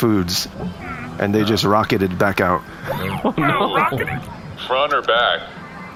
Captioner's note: laughing